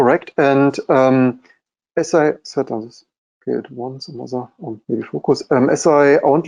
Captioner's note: murmuring